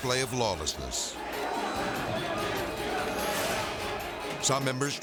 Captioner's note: thrilling music; politicians clamoring